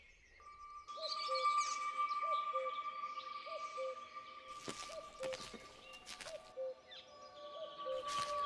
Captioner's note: metaliczny dźwięk dzwonków, tło lasu letniego, w oddali głos kukułki